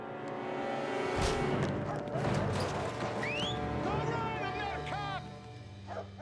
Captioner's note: whistles